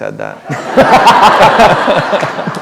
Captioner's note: laughter